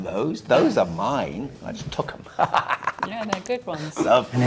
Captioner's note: laughing